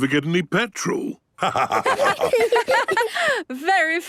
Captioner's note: laughter